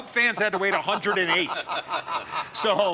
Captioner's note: laughter